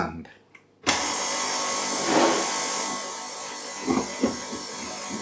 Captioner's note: subdued whizzin